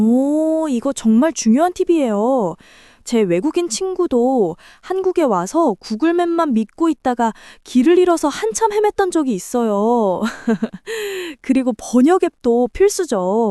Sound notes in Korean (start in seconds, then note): 10.2 웃음